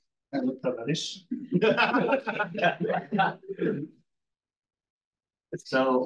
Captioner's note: audience member laughs